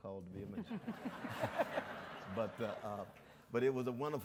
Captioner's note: audience laughs